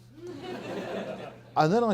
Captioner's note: audience laughing